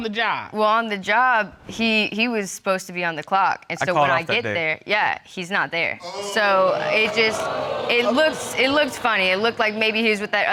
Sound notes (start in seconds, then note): 4.4 audience exclaiming